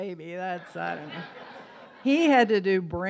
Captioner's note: audience laughs